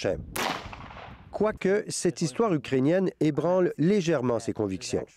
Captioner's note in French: coup de feu